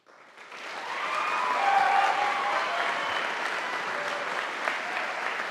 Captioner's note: audience applauding